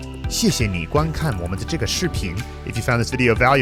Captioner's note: upbeat music; speaking Mandarin